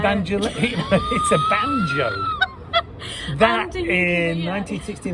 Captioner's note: laughing